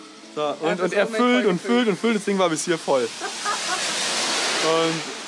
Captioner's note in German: lacht im Hintergrund